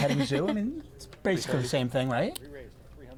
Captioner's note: laughs